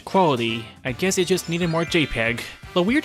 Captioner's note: magic wand